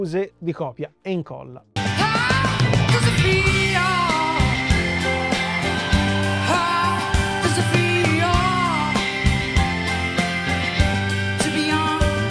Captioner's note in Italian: Applauso